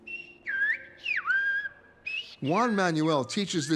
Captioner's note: whistling